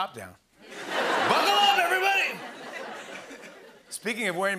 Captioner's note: laughter